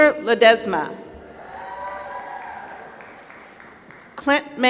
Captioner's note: applause